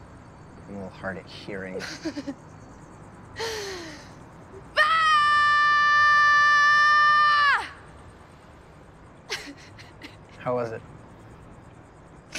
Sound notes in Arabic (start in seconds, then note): 3.4 يستنشق; 4.7 بصوت عالٍ ، صراخ طويل; 9.3 ضحكات خافتة